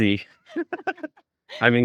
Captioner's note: laughing